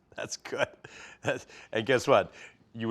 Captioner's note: laughing